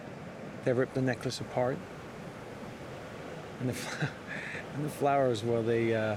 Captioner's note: chuckles